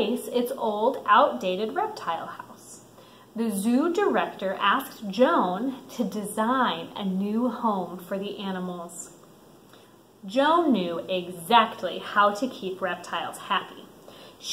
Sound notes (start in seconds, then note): none